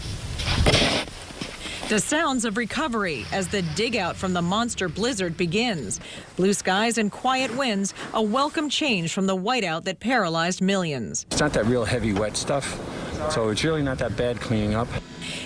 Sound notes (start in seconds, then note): 3.5 nats of shoveling